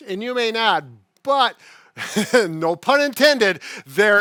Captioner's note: laughs